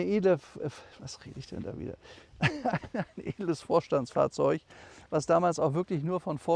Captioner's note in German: gelächter